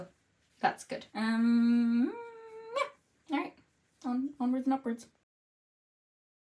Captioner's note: hums of indecision